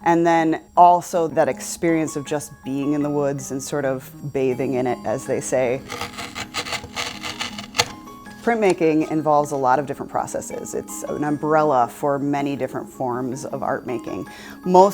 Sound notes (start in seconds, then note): 5.7 wood scraping